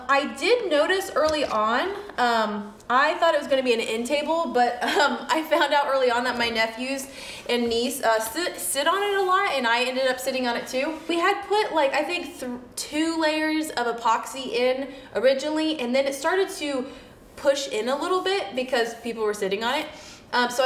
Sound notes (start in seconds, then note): 4.7 laughs